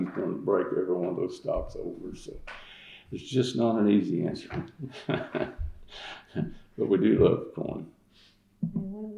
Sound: laughs

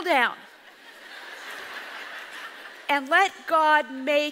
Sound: audience laughs

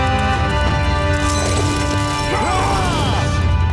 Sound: clanking, screaming

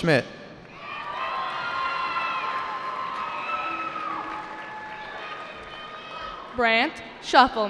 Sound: cheering

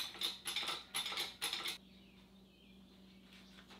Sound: jack clinking

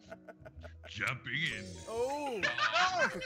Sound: laugh

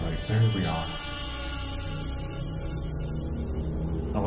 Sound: gas flowing

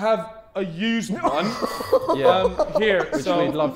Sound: Sidemen laughing

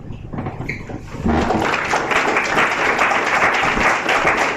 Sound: applause

